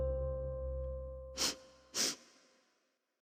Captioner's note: sniffs